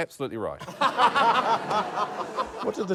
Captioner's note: laughter